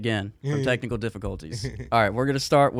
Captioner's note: laughing